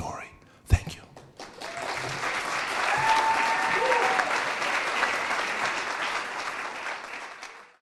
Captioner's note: audience clapping